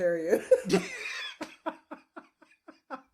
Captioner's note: laughing